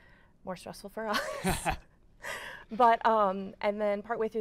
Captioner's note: laughs